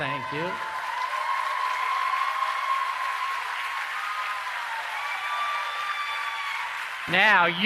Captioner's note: applause